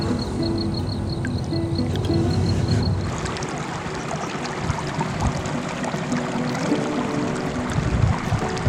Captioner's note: desert water sounds